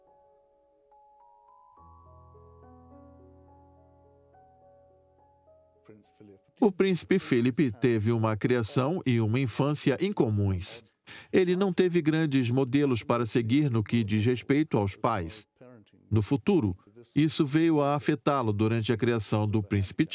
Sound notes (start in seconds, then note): 5.7 voiceover